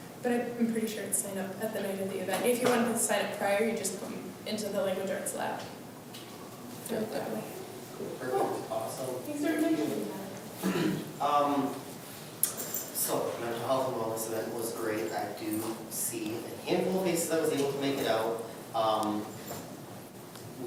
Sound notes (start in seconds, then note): 8.3 group murmurs quietly